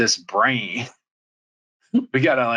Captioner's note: laughs